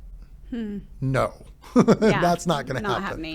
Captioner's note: laughs